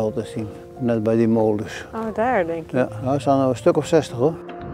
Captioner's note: wind